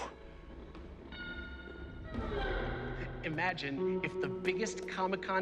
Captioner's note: none